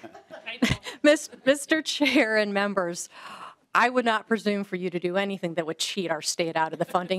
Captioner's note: laughter